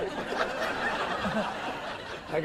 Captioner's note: laughing